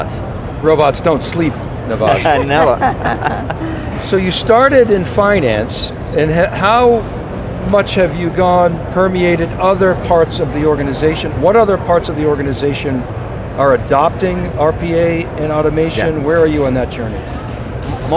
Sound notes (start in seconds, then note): 2.1 laughs; 3.6 others laugh